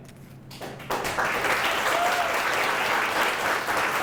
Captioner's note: applause